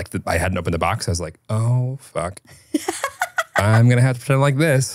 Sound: laughing

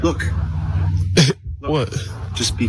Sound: cough

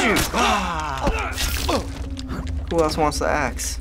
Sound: blood splatters; Joel grunts

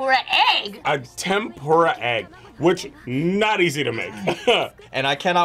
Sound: laughs

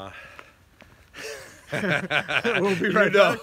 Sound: laughs

